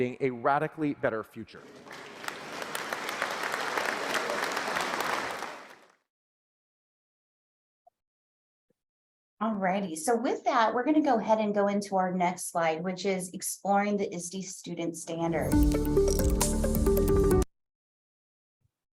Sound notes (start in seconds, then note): 1.6 applause